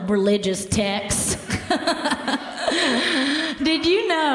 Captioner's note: laughs